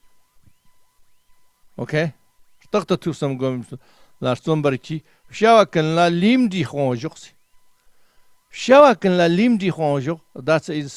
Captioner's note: tibetan